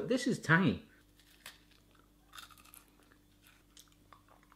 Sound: crunching

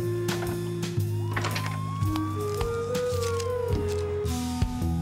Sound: distant siren wailing

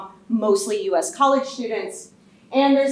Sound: none

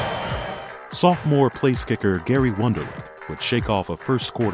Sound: voiceover

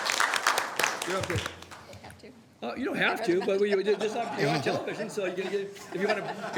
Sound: applause

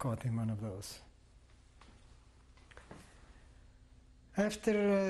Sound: pauses for 3 seconds

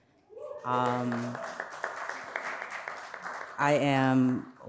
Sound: audience applauds

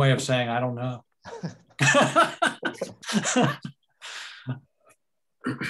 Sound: laughter

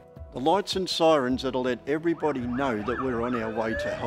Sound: siren blaring

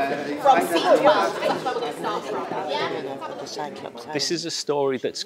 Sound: murmurs lines

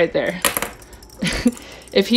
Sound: toy clatters

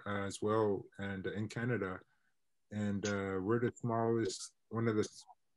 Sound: internet distortion

